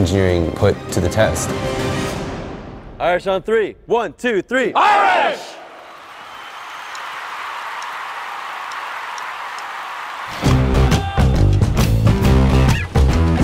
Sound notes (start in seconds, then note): 5.7 applauding; 10.3 upbeat music